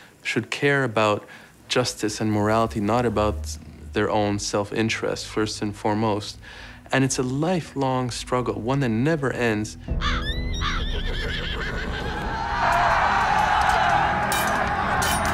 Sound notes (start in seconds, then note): 9.9 crows cawing; 10.0 horses whinnying; 12.1 warriors shouting